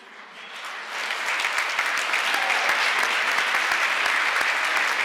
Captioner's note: applause